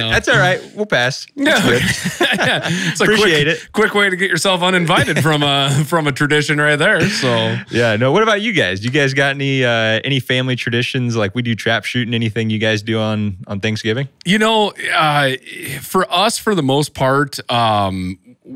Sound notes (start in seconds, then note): 0.1 laughs